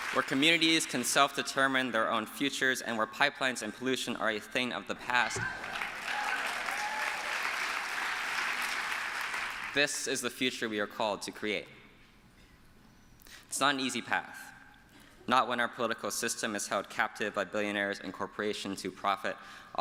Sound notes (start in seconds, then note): 5.3 applause